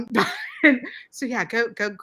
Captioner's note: laughs